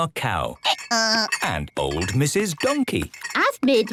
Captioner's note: braying